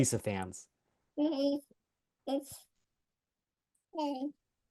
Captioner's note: baby talk